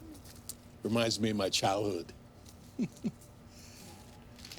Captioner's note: chuckles